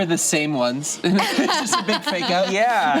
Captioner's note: laughs